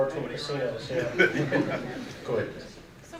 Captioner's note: audience laughing